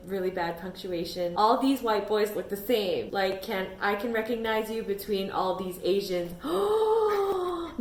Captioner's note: dramatic gasp